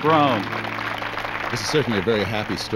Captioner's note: applause